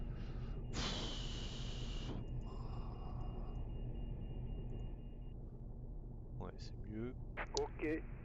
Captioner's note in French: soupir